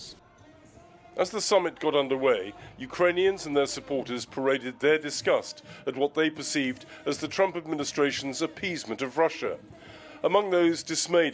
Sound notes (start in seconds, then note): 1.7 voice-over